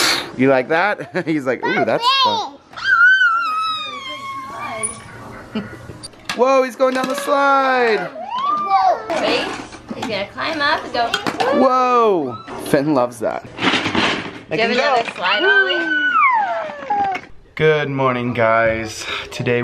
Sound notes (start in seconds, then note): 1.4 chuckles lightly; 3.5 baby babbles; 14.4 baby babbles